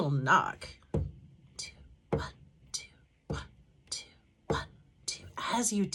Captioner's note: tapping sound